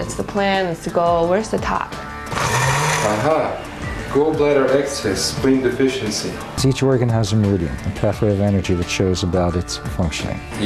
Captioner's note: blender noise